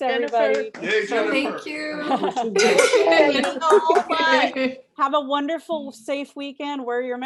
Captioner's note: audience cheering